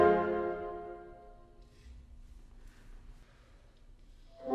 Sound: silence

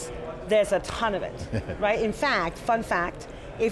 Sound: John Furrier chuckling

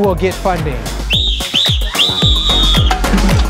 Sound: whistle blows three times

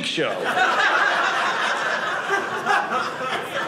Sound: audience laughing

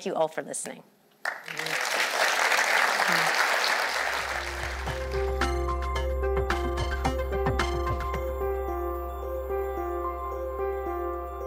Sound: applause

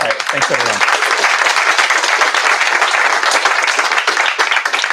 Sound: applause

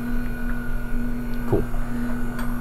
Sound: machine whirring

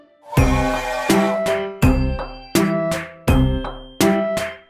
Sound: train whistle blowing

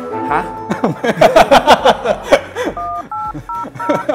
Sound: laugh

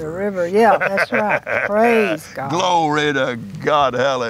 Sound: laughs

